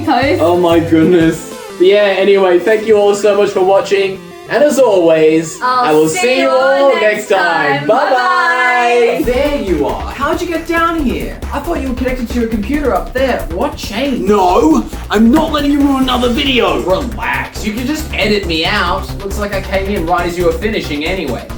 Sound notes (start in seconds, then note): 14.8 table slam